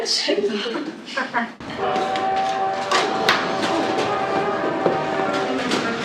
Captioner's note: steam Whistle; laughing